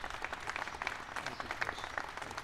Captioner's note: applause